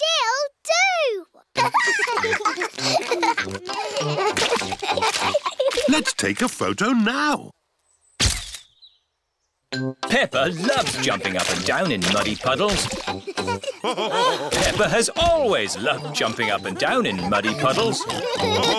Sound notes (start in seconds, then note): 1.5 both giggling; 8.8 camera clicks; 13.8 all laughing